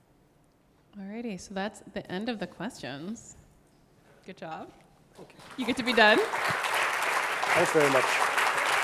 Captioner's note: audience clapping